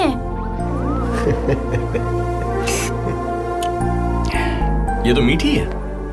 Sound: laughing; licking

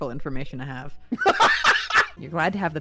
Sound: laughter

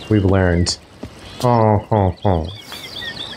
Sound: imitating boatman

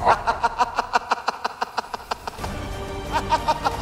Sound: laughs

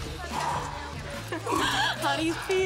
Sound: exhales sharply; chuckles

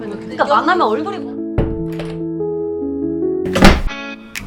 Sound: sound of door opening

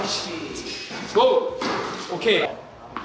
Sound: smack!

